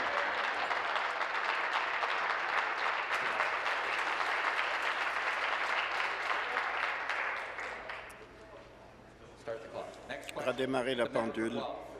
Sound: applause

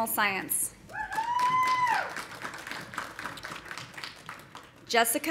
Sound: audience cheering; audience applauding

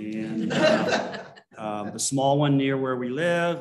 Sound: laughter

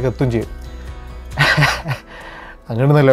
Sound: laughing

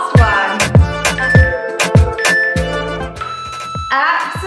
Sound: countdown timer beeping

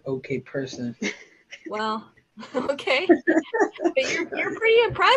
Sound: laughs; chuckles

